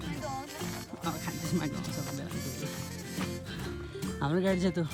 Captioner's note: sarcasm